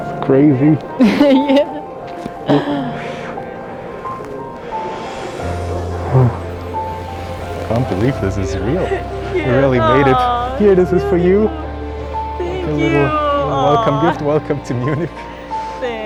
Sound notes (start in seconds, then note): 2.6 bright music continues; 4.7 sighs